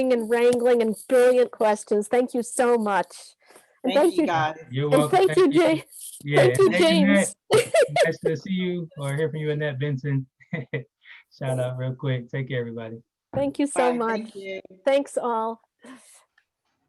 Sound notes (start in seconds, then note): 6.2 laughing; 10.4 giggling